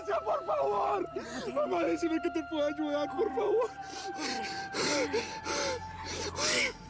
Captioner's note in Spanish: solloza